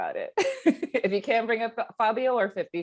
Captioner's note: laughing